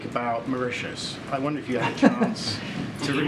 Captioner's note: laughs